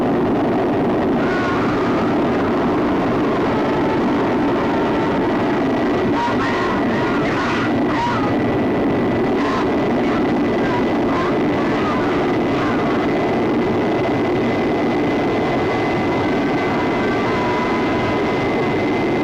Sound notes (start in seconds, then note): 1.3 men groaning; 1.3 rocket roaring